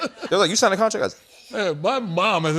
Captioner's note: whispering